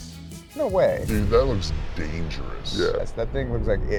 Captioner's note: bomb explodes